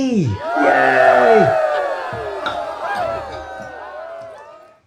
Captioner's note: cheerin